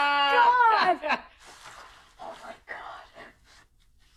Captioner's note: whispering